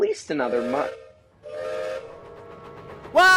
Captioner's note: gilbert whistles